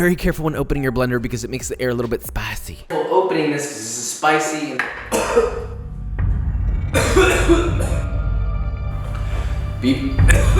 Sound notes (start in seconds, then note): 5.0 ominous music; 6.9 coughing; 9.8 more coughing